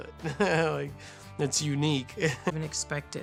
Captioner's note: giggles